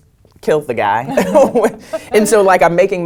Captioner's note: laugh